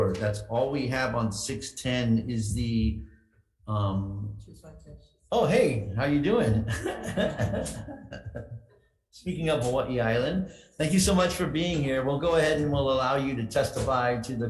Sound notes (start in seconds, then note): 6.2 laughing